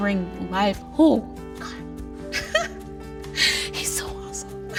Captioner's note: laugh-cries